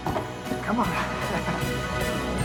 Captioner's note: laughing